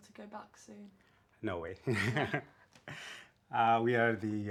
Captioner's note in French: rires